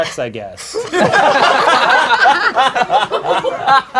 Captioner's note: crowd laughing